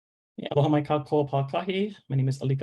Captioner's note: speaking in foreign language